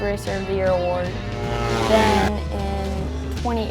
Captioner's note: engines revving